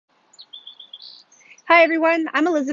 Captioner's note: bird chirps